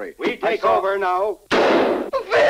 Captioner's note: gun fires